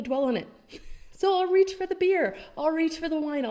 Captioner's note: chuckles